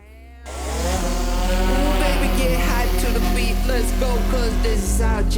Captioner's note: propeller whizzing